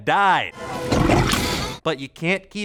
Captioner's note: gurgles